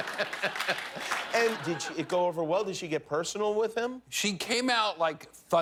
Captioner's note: laughter